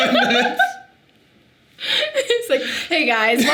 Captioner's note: Sadie laughing